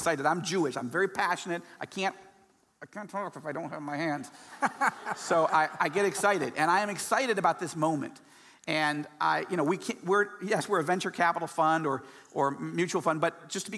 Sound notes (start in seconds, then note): 4.6 laughing